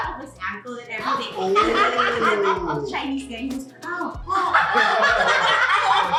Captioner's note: laughs